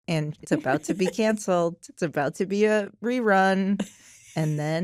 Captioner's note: laughs